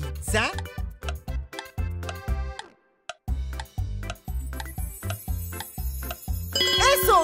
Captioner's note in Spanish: Sonido de reloj